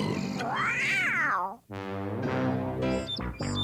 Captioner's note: m.a.d. cat meows